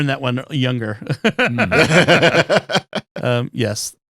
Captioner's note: laughing